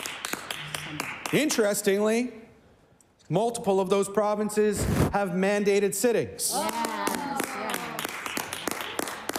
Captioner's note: some Applause